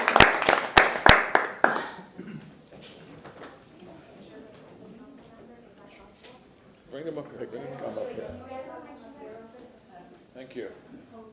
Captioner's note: applause